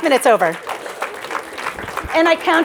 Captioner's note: applause